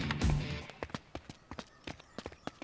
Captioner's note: Footsteps